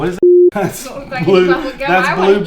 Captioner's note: beep